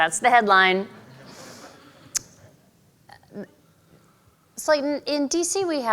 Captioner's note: audience laughing